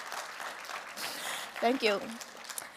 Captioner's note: applause